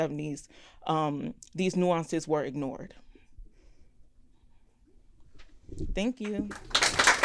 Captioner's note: applause